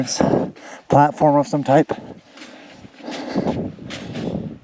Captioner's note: panting